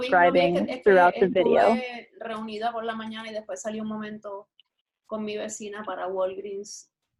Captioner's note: spoken Spanish in the background